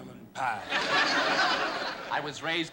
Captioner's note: laughter